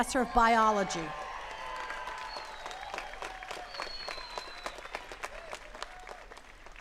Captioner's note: attendees cheering and clapping